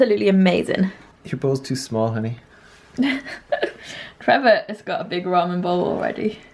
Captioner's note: laughing